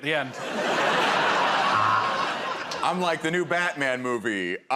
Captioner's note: laughter